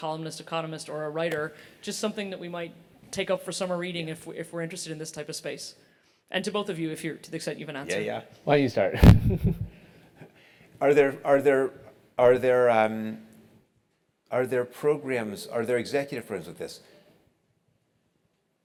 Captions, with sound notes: economist, or a writer, just something that we might take up for summer reading if we're interested in this type of space. And to both of you, if you have an answer. >> Yeah, yeah, [LAUGH]. >> Are there programs, are there executive programs with this?